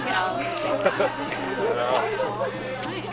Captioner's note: students murmur and chatter